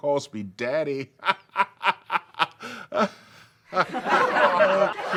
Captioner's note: Gordon laughs